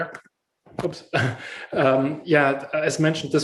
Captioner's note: laughs